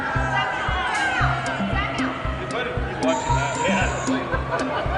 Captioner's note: siren sounds